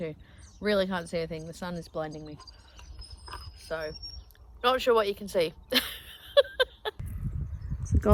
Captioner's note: laughs